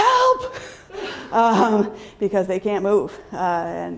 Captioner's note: laughter